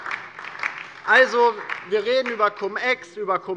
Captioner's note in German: Beifall DIE LINKE